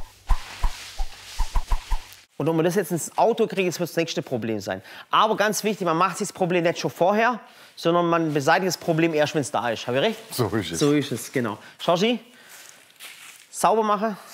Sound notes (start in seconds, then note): none